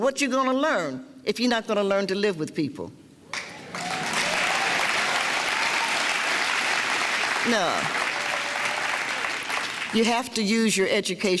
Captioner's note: clapping and cheering